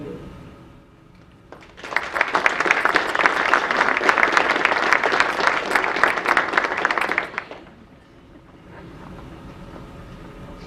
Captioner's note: audience applause